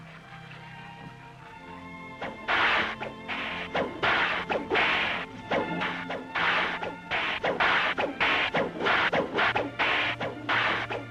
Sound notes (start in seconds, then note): 0.2 classical music; 2.1 cracking whip